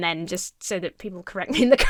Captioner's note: laughs